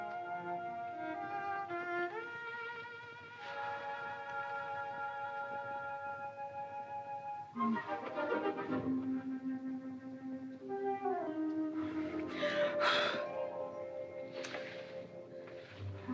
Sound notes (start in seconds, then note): 0.3 soft music; 12.8 blowing